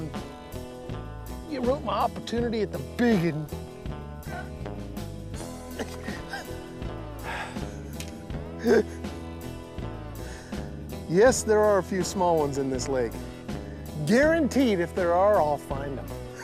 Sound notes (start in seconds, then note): 7.3 laughing; 16.2 laughs